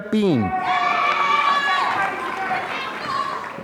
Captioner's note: applause